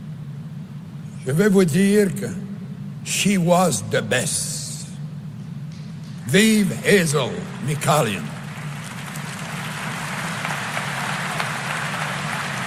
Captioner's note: speaking in french